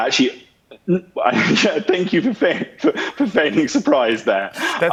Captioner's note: chuckling